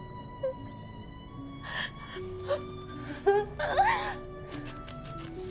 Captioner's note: gentle solemn music continues; gentle solemn music; Kira sobbing; gentle solemn music continues